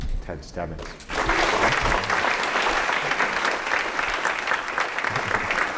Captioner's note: applause